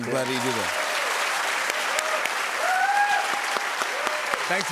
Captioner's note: cheers and applause